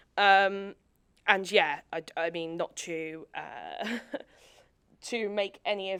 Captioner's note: chuckles